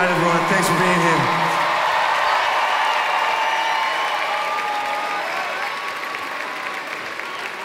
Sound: cheering and applause

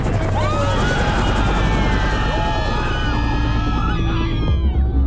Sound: screaming, cheering

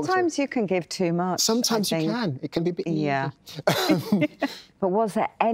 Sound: laughs

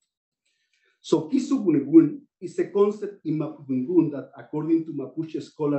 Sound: non-english

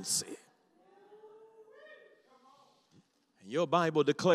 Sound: congregation shouts

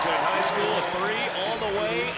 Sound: crowd noise

